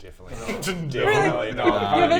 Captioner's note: scoff